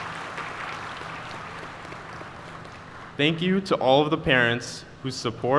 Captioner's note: applause